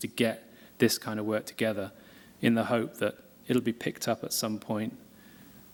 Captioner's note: none